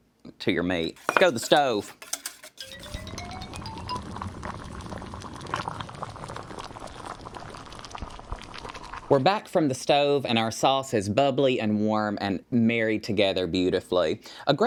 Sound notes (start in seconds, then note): 4.0 bubbling